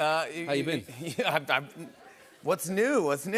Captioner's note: laughter